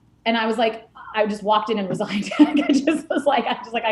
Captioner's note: laughing